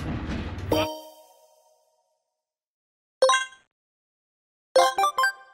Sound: video game noises

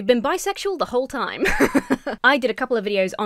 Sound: laughs

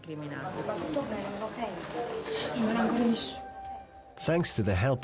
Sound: speaking in Italian

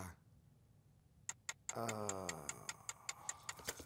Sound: timer ticking

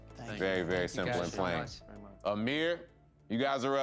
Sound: overlapping thanks

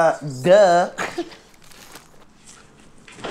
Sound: chuckles

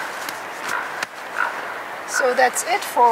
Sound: sound of duck quacking

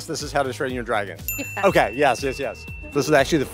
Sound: bell dings

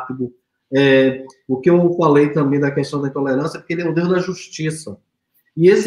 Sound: speaks portuguese

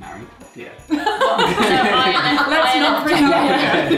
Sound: laughing

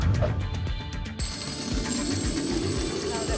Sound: thump; coins jingling

